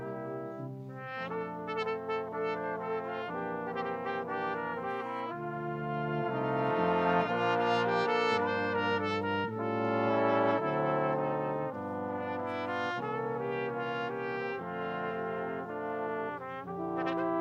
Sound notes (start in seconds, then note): none